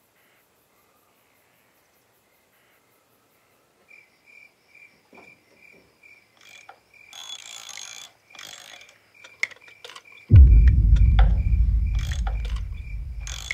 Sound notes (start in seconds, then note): 3.2 crickets chirping; 6.9 metal cranking; 10.3 ominous music